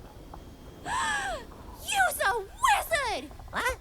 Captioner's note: gasps